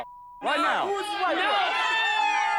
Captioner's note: people cheering